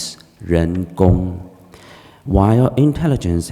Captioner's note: speaking foreign language